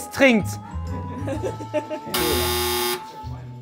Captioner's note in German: Lachen; Heitere Musik